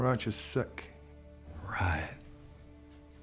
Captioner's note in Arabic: يقول بسخرية